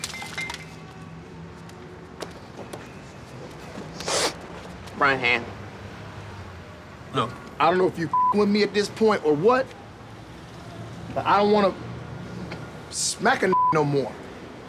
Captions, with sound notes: Front hand. - Look, I don't know if you (beep) with me at this point or what, but I don't wanna smack a (beep) no more.